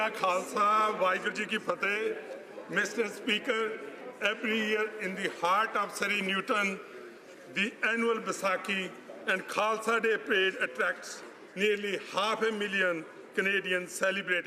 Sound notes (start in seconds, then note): 4.5 speaking alternate language